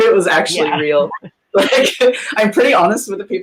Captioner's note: laughing